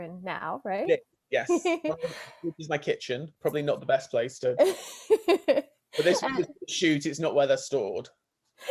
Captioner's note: laughs